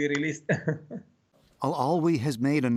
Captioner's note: laughter